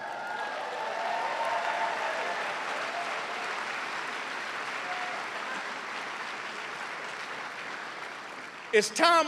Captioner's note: cheers and applause